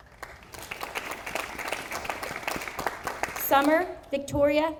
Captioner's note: audience applauding